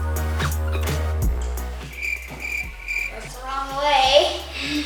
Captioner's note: upbeat music; crickets chirping